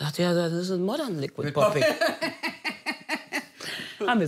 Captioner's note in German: Beide lachen